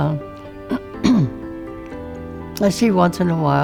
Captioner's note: clearing throat